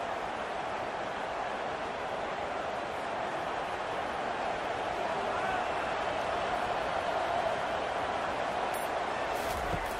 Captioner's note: crowd cheering